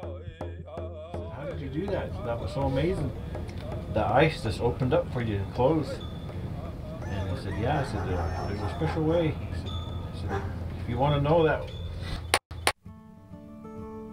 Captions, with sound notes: - How did you do that? That was so amazing. The ice has opened up for you, and closed. (bird caws) - Yeah, there's a special way if you want to know that. (bright music)